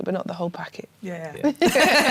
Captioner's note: laughter